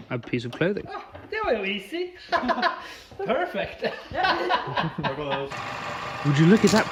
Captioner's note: classic laugh